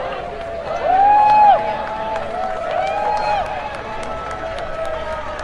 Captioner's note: crowd cheering